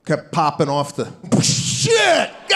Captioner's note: Sebastian making explosion noise